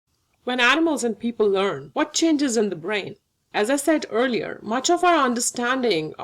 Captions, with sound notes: - [Voiceover] When animals and people learn, what changes in the brain? As I said earlier, much of our understanding